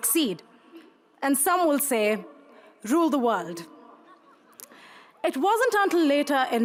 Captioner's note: crowd laughs